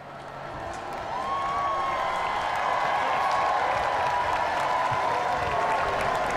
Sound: cheers and applause

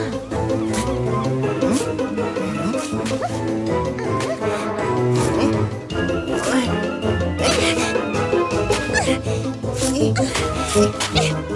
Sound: sound of sand

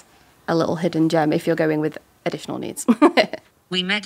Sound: chuckles

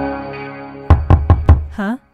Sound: knocks on door

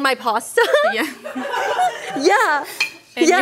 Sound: laughing

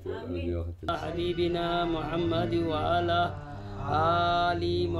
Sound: man praying in Arabic

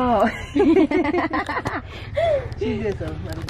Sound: laughs

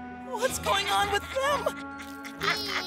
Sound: Ash laughing

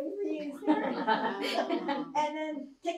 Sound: laughter

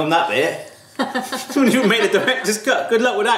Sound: laughing

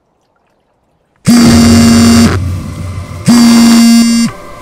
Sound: phone buzzes loudly

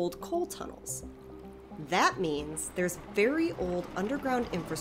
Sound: train passes, room shakes

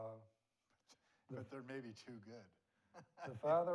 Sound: laughs

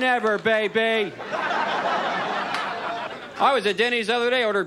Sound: audience laughs

